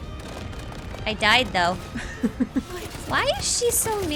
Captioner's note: laughs